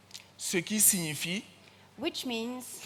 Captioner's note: continues in French